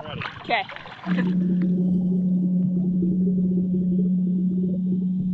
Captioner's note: engine hums underwater